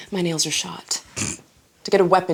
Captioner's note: snort